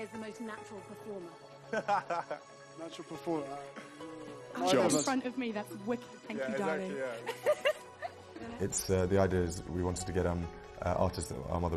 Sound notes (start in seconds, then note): 1.7 William laughs; 7.2 giggles